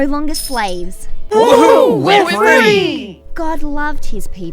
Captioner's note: cheering